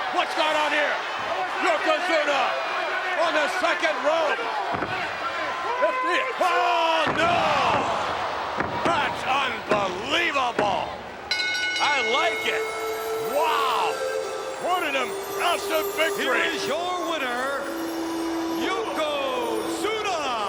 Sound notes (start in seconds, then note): 11.3 bell rings; 13.2 peaceful music